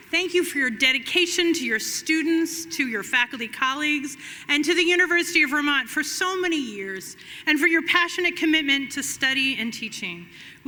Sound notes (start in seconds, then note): none